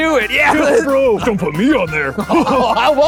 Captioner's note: laughs